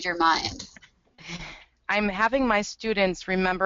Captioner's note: voiceover